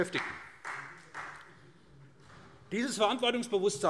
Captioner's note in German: Vereinzelter Beifall SPD